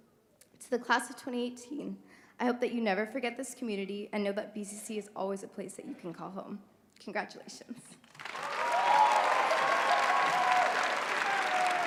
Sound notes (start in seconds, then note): 8.0 applause